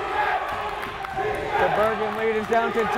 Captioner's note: crowd chanting defense